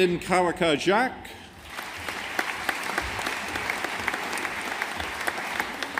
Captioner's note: audience applauding